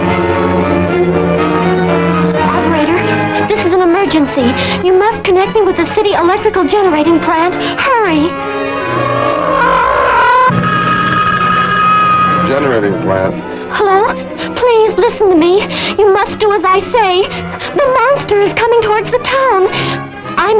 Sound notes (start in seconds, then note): 2.6 tense music; 12.5 gargon growls; 13.1 phone rings